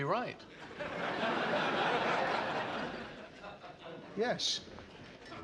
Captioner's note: laughter